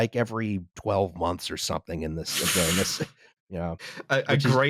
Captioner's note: sputter-laughs